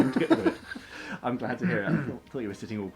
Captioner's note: laughs